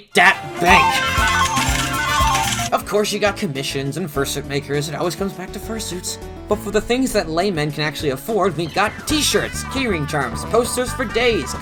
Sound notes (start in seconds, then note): 0.1 slot machine jackpot sounds as the theme to "The Price is Right" plays